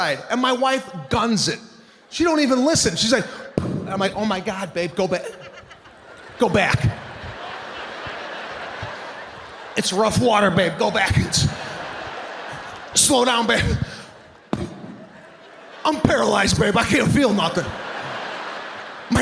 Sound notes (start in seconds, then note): 7.3 audience laughing; 14.5 Sebastian smacks mic; 17.9 audience laughing